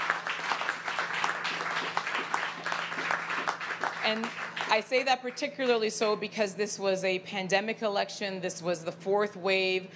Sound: applause

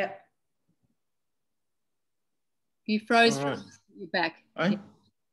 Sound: audio distorts

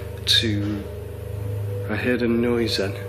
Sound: loud clanging

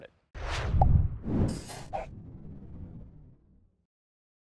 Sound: logo whooshing

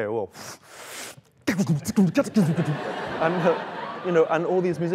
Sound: beat boxing

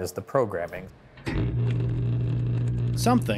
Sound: machine whirring

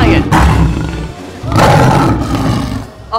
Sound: roaring

